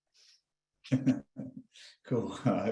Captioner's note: chuckling